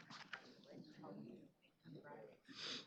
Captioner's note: none